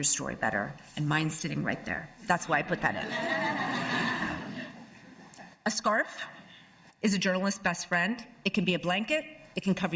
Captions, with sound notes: because you're also trying to make your story better. And mine's sitting right there. That's why I put that in. [ Laughter ] A scarf is a journalist's best friend.